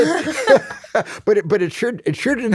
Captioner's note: laughs